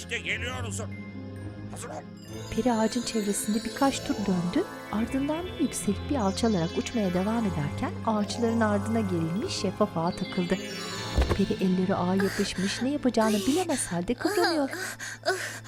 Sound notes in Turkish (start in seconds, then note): 2.9 Uçma sesi; 11.3 Çarpma sesi